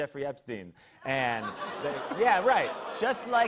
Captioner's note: audience ohs